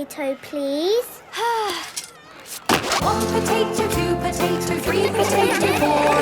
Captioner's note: Belinda sighing; laughter